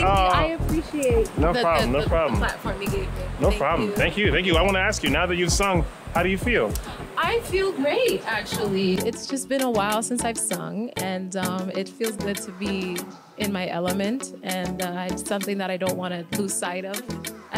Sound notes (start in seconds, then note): none